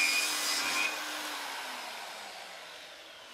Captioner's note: machine stops